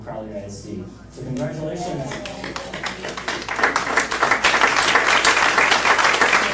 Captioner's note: clapping